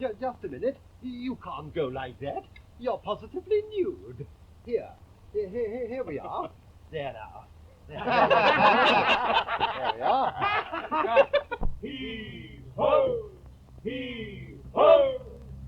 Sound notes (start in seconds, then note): 7.8 all laughing